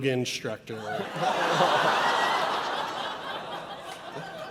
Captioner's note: audience laughs